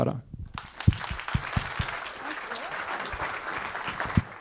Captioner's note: audience clapping